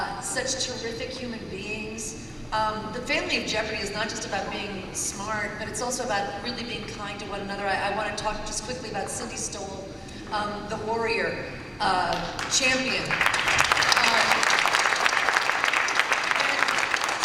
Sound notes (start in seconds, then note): 12.1 applause